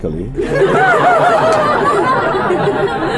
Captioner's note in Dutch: meer gelach